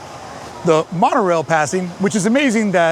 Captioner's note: monorail hums quietly